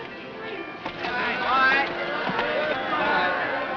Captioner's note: cheers